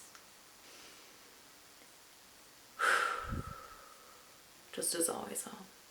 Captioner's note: breathes deeply again